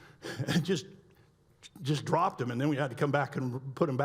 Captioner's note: laughs